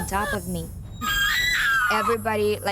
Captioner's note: screams